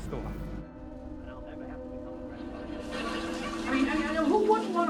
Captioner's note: speaking in unknown foreign language; television chatters; suspenseful music